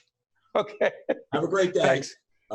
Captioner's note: laughing